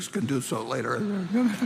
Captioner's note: laughter